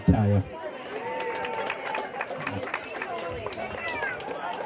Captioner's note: applause